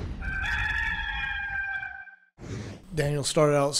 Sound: rooster cawing

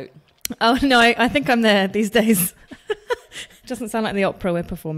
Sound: laughs

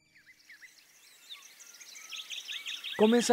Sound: birds chirps and calls

